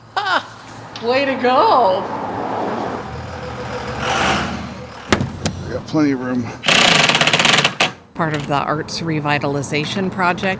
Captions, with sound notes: -Ha! Way to go! [truck engine whirls] -I’ve got plenty of room. [power tool drills] -Part of the arts revitalization project